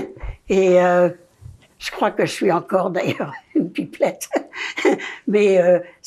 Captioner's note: laughing